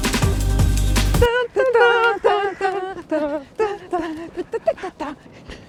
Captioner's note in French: fredonnement de Fort Boyard